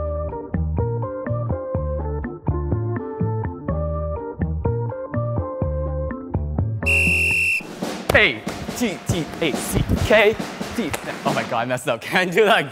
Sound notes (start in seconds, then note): 0.0 calm music; 6.8 whistle blowing